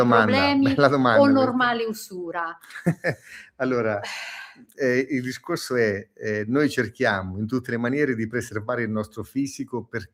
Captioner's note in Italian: risate